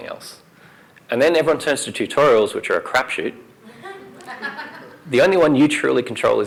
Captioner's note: laughter